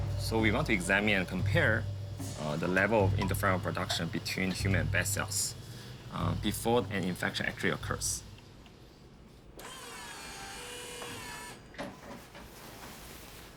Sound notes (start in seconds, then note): 9.6 whirring